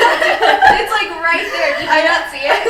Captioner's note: all laughing